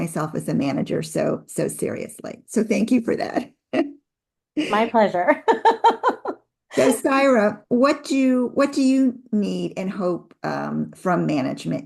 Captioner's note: laughs